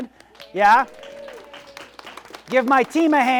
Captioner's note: audience applauds